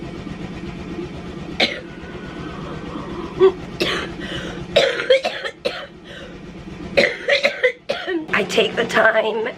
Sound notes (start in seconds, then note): 1.1 coughing